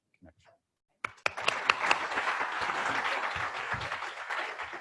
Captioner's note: applause